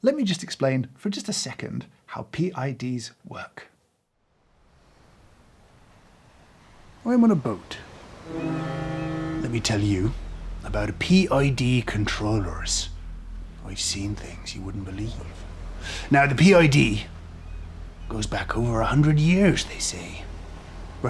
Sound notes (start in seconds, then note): 8.2 foghorn blares; 12.6 suspenseful music